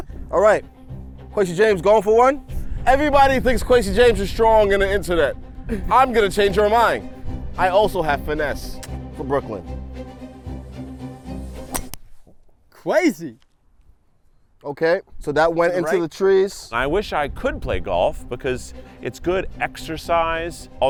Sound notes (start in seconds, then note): 11.6 golf club thwacks